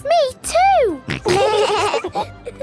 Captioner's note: laughing